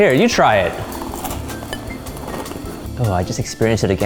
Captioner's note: crunch